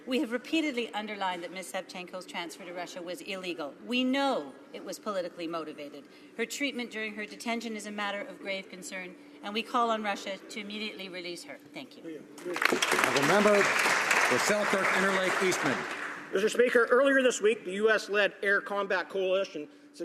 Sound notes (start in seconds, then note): 15.6 some Applause